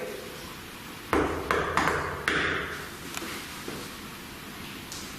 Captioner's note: loud knocking